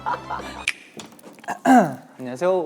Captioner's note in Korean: 벌컥